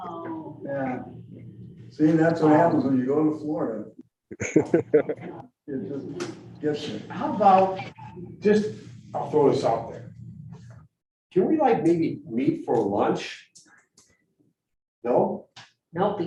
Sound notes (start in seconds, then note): 4.3 laughs